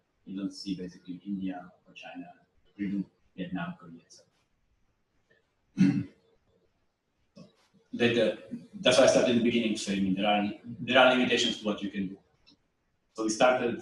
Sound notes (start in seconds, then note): 5.8 pause